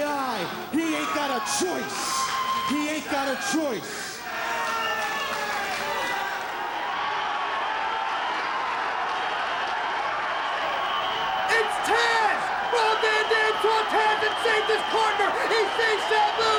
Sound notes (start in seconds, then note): 2.5 applause